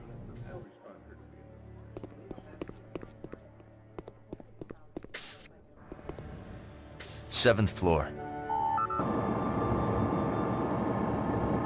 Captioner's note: phone beeping